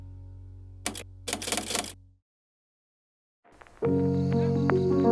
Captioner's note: typewriter clatters; buoyant music